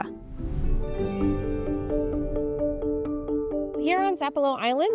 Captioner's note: transition whooshes